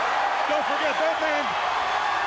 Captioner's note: crowd cheering